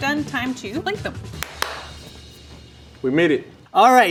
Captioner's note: claps